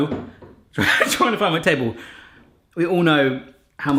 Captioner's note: laughs